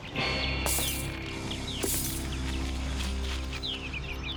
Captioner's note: spurs jangling